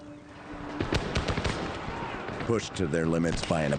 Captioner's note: guns banging